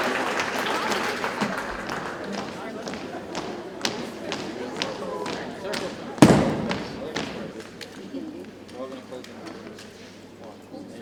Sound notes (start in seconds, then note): 1.6 rhythmic thumping continues